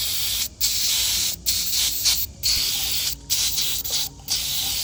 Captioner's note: spraying